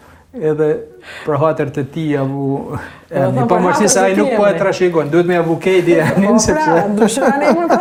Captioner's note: laughs